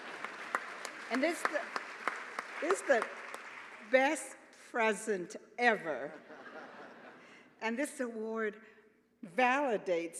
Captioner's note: laughter